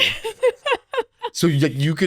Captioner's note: both laughing